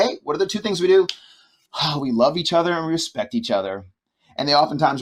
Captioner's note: exhales